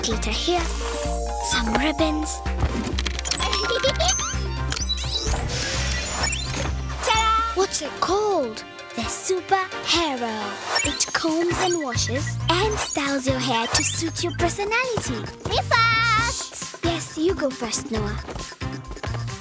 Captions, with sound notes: - Glitter here, some ribbons. (laughing) - Ta-dah! - What's it called? - The Super Hairo. It combs and washes and styles your hair to suit your personality! - Me first! - Yes, you go first, Noah.